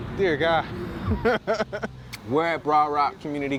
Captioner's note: laughs